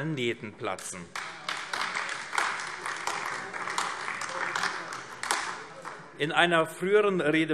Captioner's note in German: Beifall AfD